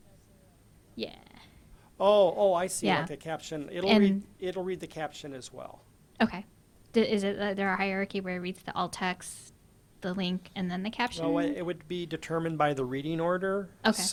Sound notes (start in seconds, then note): 6.4 voiceover; 13.9 voiceover